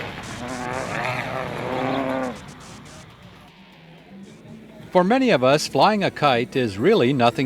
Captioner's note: motor sound